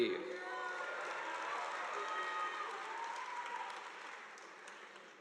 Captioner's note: audience applauding